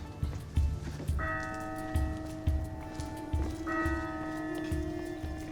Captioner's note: church bells ringing